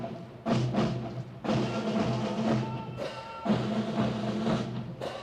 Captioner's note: Officier crie un ordre